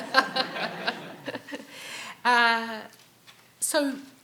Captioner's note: audience laughing